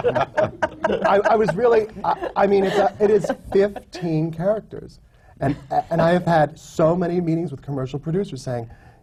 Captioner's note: laughter